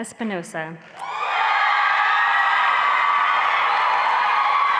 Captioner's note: applause